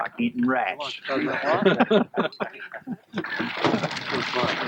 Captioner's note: laughter